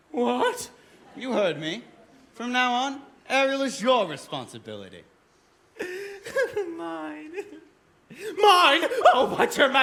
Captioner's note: laughter